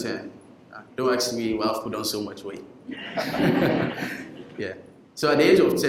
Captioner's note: laughing